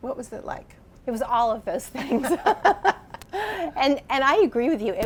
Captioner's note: both laughing